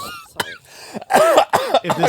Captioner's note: coughs